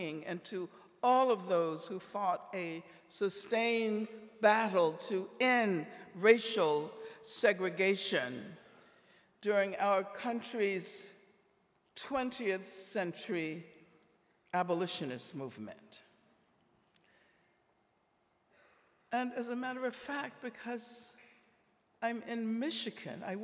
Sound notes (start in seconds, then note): none